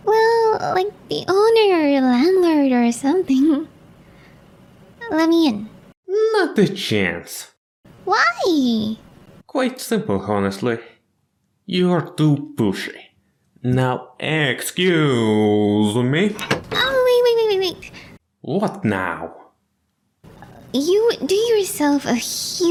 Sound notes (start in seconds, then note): 16.3 closing the door